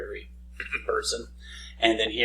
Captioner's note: clearing throat